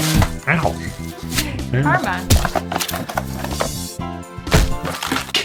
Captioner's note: paper whooshing; object thudding